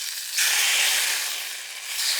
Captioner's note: sizzle